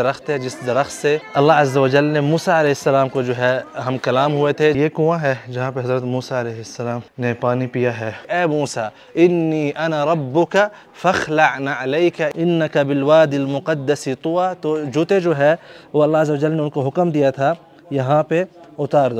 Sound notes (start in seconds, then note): 10.8 Arabic